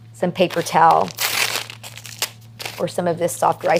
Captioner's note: paper tears